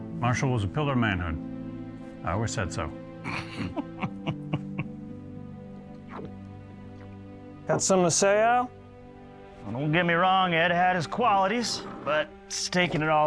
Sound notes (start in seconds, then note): 3.2 laughing